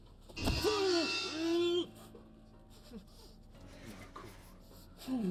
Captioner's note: dramatic music; muffled scream